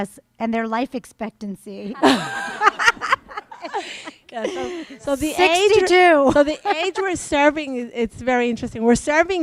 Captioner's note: laughter